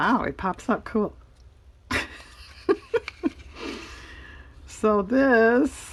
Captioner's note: laughs